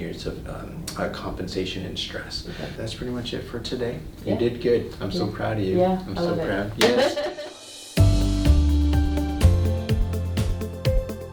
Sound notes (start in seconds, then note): 6.9 patient laughs; 7.6 gentle upbeat music